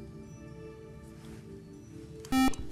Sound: buzz

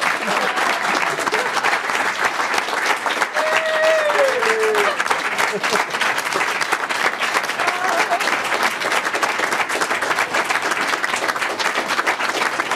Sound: applause

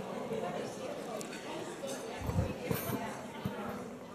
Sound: people talking

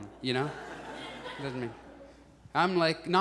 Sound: audience laughs

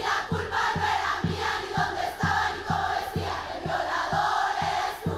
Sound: speaking foreign language

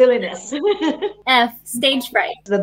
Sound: laughing

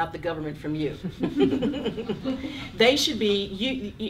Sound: laughing

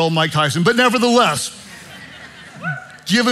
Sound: congregation laughing

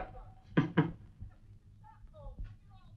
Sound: chuckles

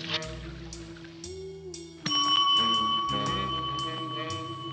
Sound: loud ding

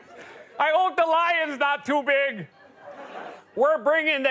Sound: laughter; laughter

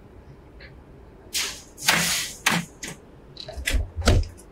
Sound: door slamming

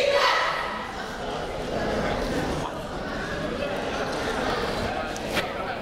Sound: people talking in the crowd

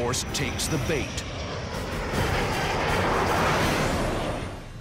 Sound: jets roaring

